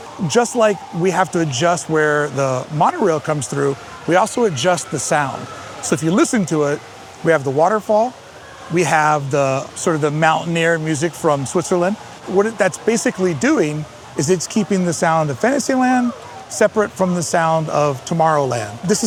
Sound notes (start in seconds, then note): 6.5 faint hiss of waterfall